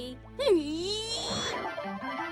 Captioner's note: giggles; fanfare